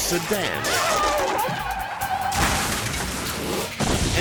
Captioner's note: bride screams